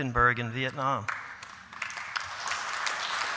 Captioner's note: applause